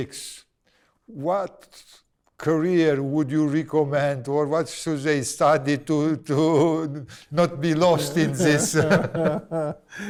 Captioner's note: laughs